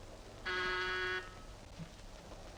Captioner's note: buzzer